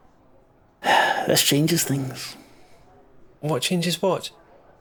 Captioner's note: sigh